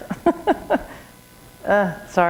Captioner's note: chuckle